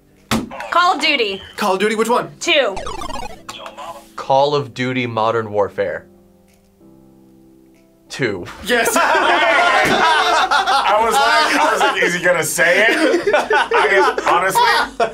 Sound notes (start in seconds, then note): 3.3 buzzer; 9.6 laughs